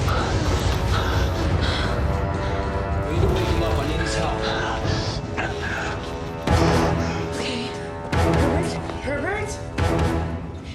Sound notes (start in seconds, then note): 4.4 gasping